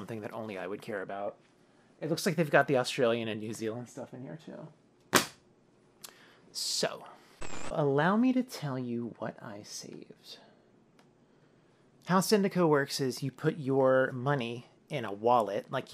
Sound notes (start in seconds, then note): 7.4 static